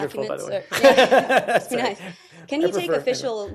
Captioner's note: laughter